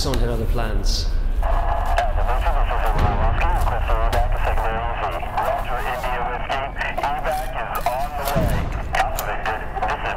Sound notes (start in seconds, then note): 3.3 flashback sounds - Ghost's unit calling for air support; 8.3 flashback sounds - ActivistSun ordering the pilots to fire on Ghost's team